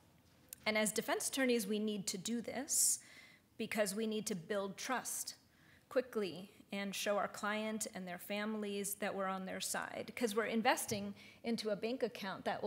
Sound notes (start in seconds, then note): none